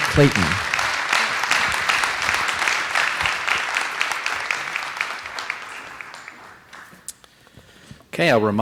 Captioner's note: applause